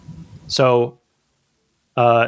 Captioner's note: uh